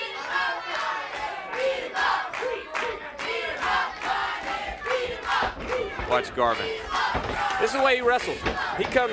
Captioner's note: crowd cheering